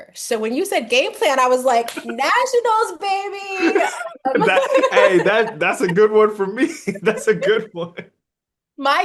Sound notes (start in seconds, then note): 3.6 start laughing